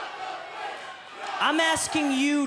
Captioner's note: fans chanting